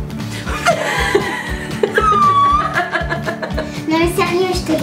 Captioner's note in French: rires